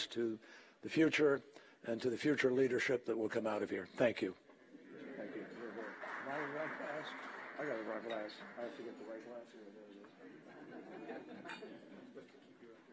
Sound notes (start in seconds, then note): 7.1 applause